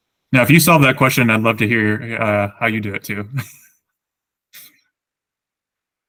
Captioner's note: laughs